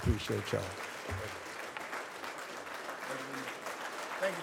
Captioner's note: audience applauds